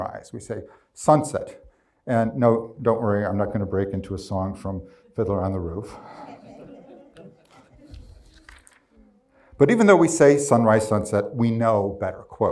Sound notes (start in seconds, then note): 5.8 crowd chuckles